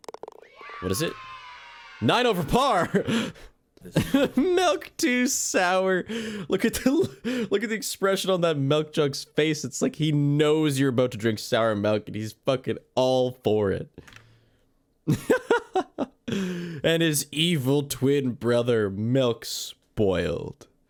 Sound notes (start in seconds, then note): 2.8 giggle; 15.1 more giggles